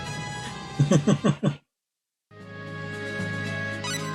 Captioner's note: laughs